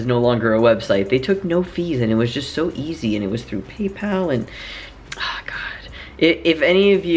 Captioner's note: sighs